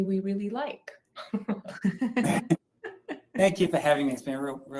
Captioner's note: group laughing